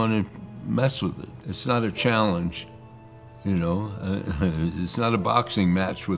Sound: laughs softly

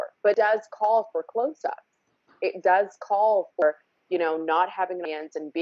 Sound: none

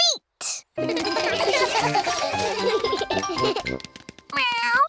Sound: all giggle

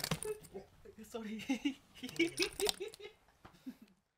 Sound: giggles

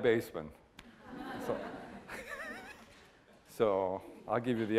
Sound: laughter

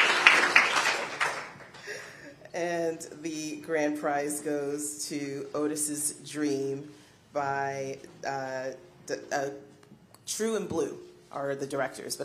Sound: applause

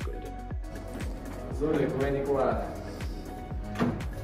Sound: mutters

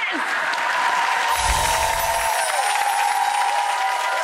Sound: crowd cheering

